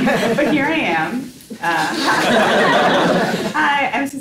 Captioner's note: laughter